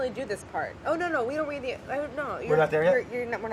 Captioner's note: stammers